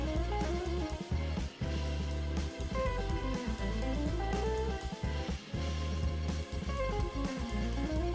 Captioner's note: none